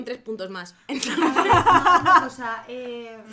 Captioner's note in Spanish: risas